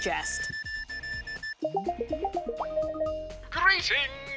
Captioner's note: tablet beeps, chimes